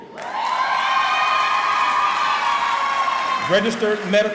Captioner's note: cheering